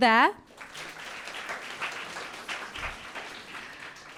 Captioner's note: audience clapping